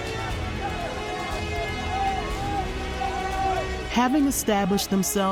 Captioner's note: press yelling